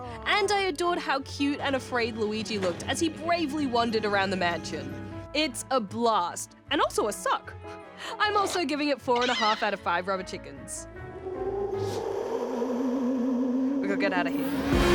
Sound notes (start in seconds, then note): 11.0 ghostly howling